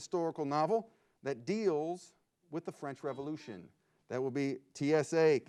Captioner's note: buzzer beeps